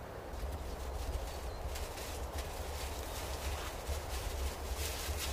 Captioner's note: fire crackling